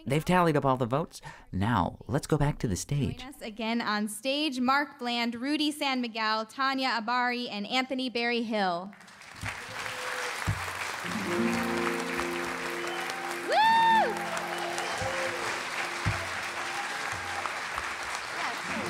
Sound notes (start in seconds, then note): 9.2 applause